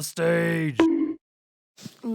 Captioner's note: bonk